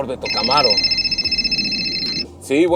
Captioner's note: phone ringing